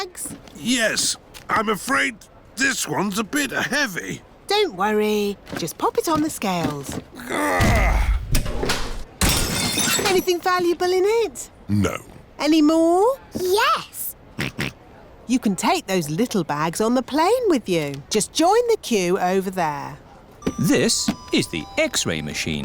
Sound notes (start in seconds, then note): 7.2 grunts; 9.2 crashes; 13.6 snorts